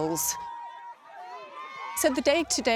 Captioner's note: tribe cheering